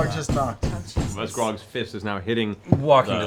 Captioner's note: knocking